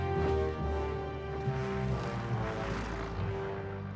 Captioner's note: engines buzzing